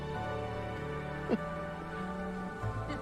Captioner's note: woman chuckles